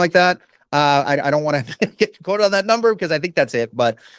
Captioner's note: chuckles